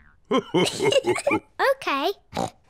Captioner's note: laughs